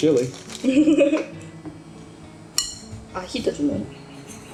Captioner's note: laughing